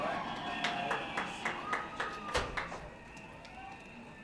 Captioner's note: applause